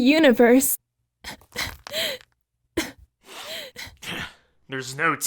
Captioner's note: crying